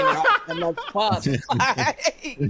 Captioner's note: laughing